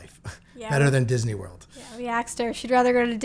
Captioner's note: laughs